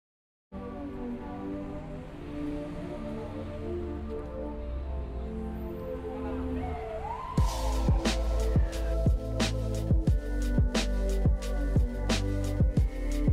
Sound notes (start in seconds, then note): 0.7 soft ambient music; 7.1 rhythmic ambient music; 7.1 sirens blaring